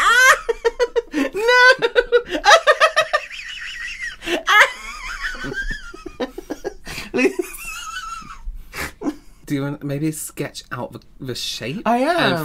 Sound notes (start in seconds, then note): 3.1 wheezing Laughter